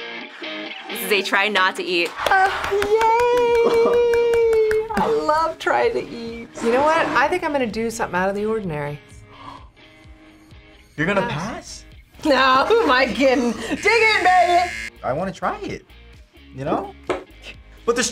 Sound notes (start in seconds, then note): 0.0 upbeat rock intro; 9.2 gasps; 13.4 buzzer rings